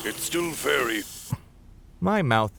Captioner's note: slurping